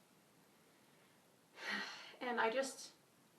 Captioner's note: sighs